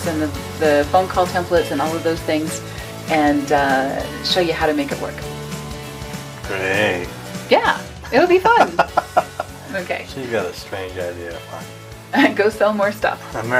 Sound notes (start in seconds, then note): 8.5 man laughs; 12.4 laughs